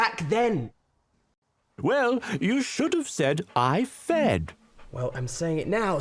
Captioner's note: voiceover